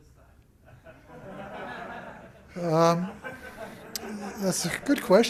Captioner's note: laughter